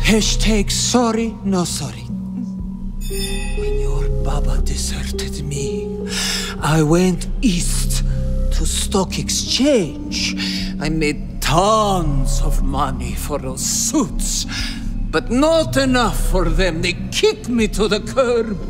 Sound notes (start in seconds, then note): 3.0 magic crystal ball shing